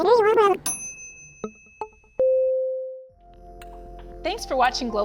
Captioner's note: bell dings